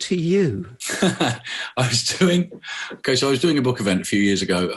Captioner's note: laughs